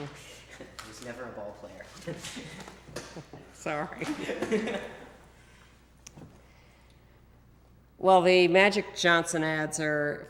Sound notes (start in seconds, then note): 2.0 laughs; 2.1 both laugh